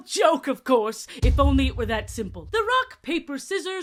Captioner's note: small boom sfx